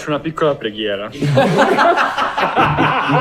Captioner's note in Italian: Risate